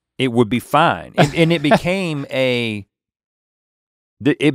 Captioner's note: chuckles